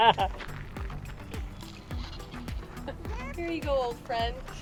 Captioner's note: laughing